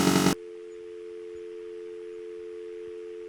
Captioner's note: dial Tone